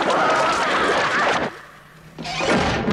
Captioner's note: yelling stops